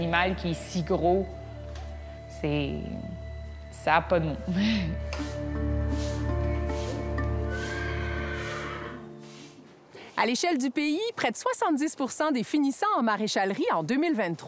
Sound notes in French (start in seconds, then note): 7.4 hennissement